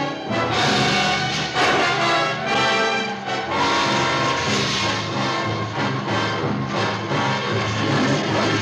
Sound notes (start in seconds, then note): 0.7 flare crackles; 3.1 suspenseful music